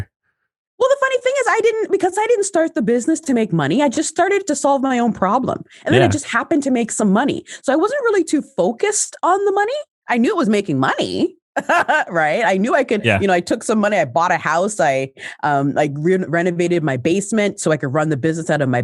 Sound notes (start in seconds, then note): 13.0 laughs